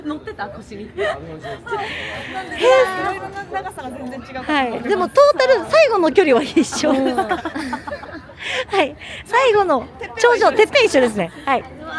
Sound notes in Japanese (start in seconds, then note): 6.2 笑い